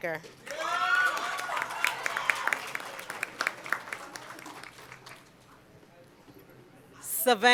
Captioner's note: cheering and Applause